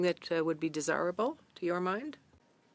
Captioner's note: speaking in French